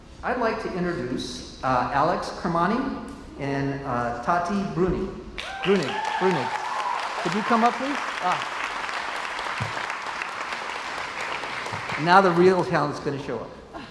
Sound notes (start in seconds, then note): 5.4 cheers and applauds